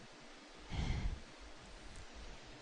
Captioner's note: sigh